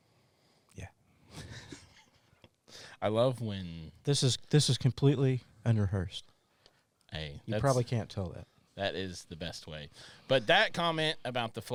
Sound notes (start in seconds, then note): 1.4 laughs softly; 3.4 laughs